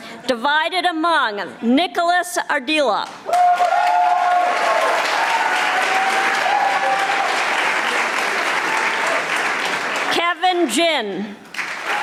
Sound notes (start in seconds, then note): 3.2 audience applauding